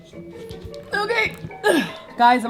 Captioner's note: grunts